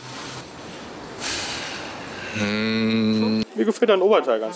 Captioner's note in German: atmet aus